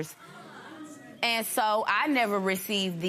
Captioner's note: spectators murmur